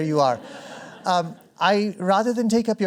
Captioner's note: laughter